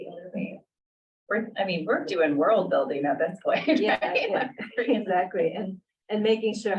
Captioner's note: laughter